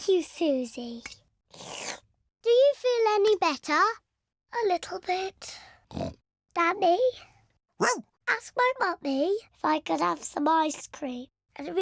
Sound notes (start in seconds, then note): 1.5 slurps; 7.6 barks; 7.8 oinks